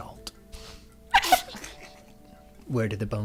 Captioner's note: laughter